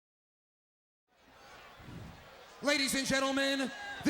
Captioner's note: audience chattering